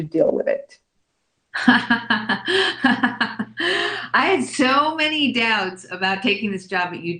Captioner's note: laughs